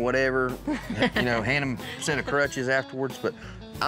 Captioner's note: laughs